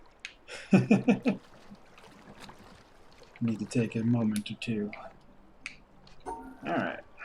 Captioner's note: chuckles